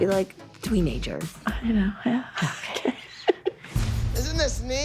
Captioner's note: laughs